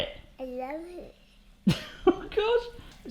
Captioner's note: laughing